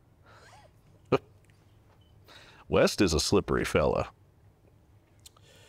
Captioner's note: laughs